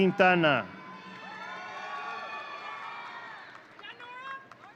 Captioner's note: audience cheering